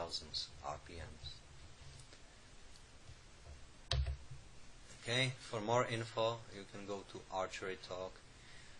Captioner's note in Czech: v angličtině